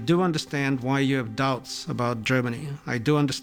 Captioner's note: none